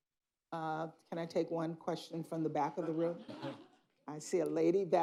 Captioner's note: laughter